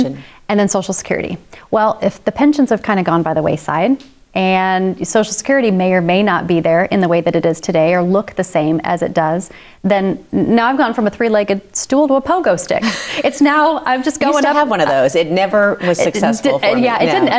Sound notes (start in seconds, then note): 12.8 laughs